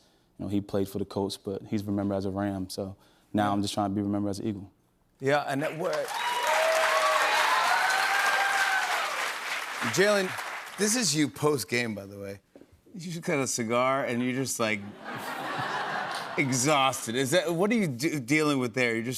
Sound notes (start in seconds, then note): 5.6 cheers and applause